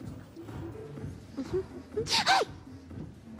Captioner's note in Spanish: Tararea